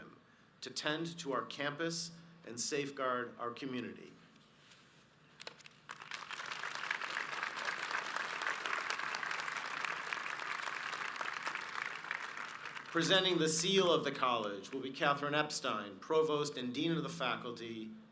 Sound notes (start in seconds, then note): 4.0 audience applauds